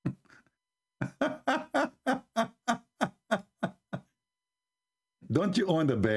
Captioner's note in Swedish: Skratt